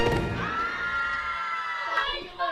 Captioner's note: girls screaming